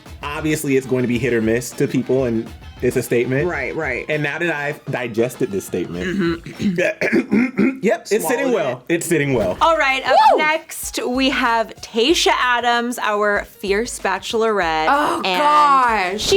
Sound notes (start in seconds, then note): 5.9 both throats clearing